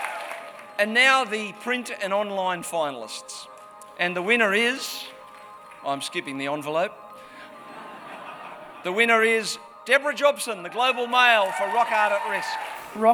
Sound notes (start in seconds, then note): 0.0 applause; 7.6 laughter